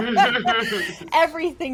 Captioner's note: clears throat